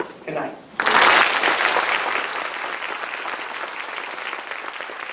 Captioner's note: applause